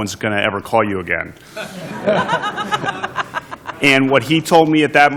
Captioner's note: laughter